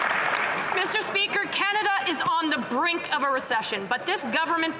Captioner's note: some Applause